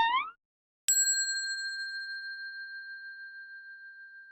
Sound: bell dinging

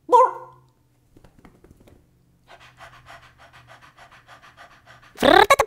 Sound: panting; funny motor sound

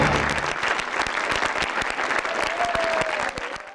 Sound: audience applauding

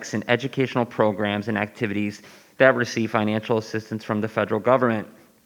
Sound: none

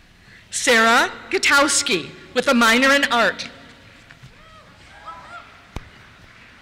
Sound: cheers

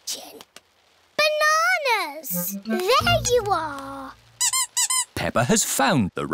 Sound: squeaking

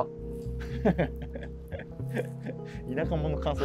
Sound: laughing

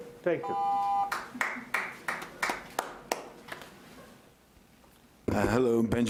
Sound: timer beeps

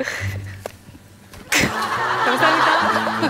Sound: kicking

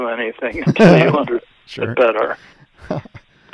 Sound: laughs

